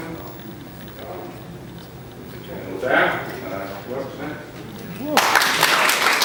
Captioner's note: applause